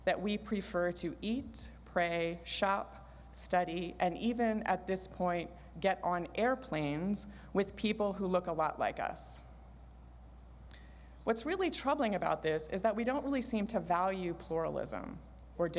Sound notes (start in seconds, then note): none